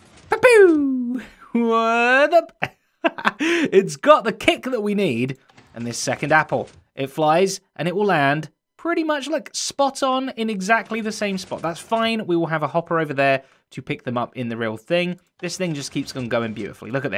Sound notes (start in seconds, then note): 3.0 chuckles